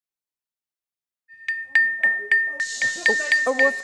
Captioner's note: dings